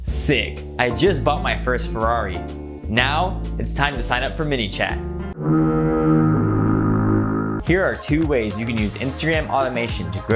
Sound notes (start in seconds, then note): 5.3 foghorn blowing